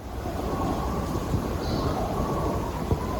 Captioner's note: loons and other birds calling